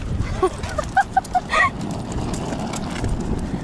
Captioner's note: laughs